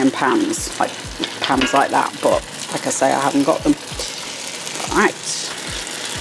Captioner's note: thunk think thunk